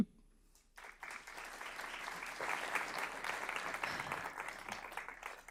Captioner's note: audience applauding